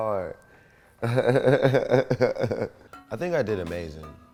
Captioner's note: laughs